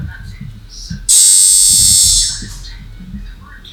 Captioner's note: buzzer